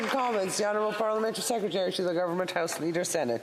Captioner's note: some Applause